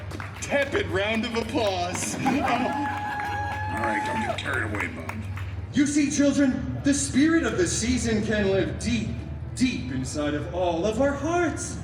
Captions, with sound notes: tepid round of applause. [guests cheering and laughing] All right, don’t get carried away, Bub. You see, children, the spirit of the season can live deep, deep inside of all of our hearts,